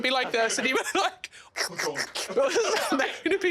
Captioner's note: laughing; imitates slopping noises